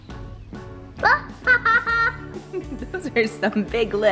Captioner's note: laughing